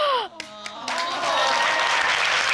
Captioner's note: gasping; audience exclaim